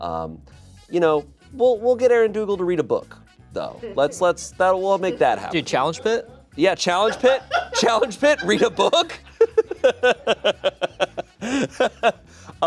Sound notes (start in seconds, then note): 9.3 laughs